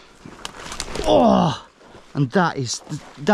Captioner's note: grunting